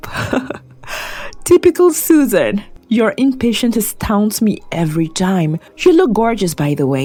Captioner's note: chuckles